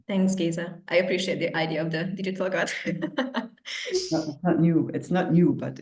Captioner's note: laughs